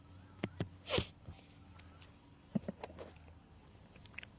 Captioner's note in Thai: เสียงสูดหายใจ